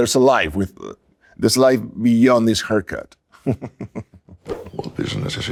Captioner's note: laughs